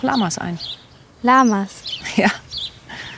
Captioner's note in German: lachend